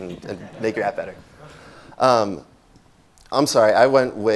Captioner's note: laughing